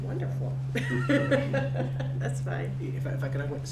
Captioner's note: laughs